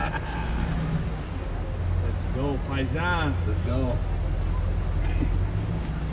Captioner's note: laughter